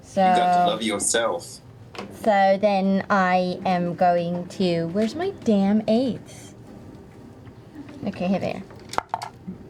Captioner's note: affected accent; normal voice